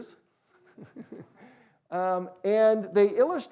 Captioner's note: chuckles